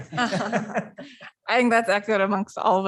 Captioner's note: laughter